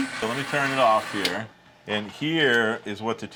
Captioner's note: machine clicks off